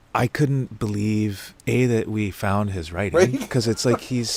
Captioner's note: laughs